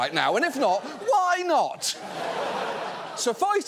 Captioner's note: audience laughs